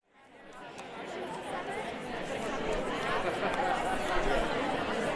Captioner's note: audience members chattering